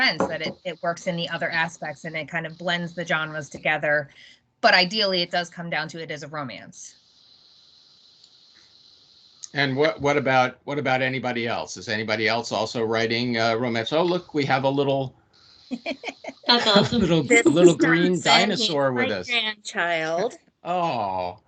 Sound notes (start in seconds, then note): 15.7 laughing